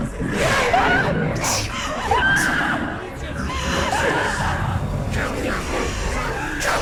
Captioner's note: scream